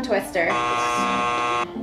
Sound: buzzer buzzing

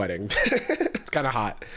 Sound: laughs

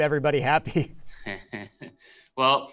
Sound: chuckles

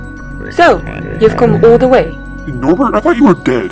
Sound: alien noises

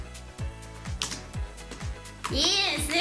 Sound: slime squishing

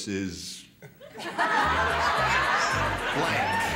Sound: laughter

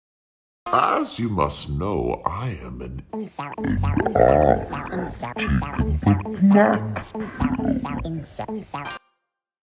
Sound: modulated voice

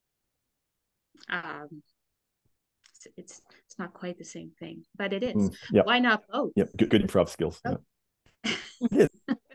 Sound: laughs

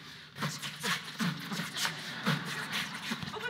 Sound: beat box

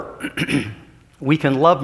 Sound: clears throat

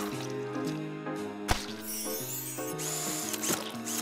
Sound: jazzy music; chimes tinkling

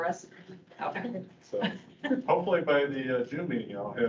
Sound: laughing

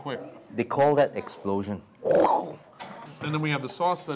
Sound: makes explosion sound

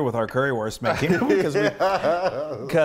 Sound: laugh

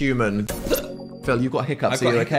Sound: hiccups

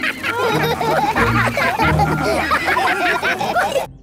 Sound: all laugh

